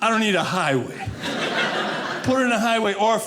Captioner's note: audience laughing